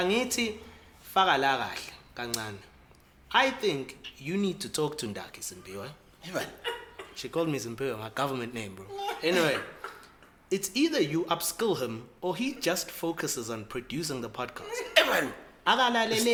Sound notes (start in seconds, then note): 6.3 laughs; 9.0 laughs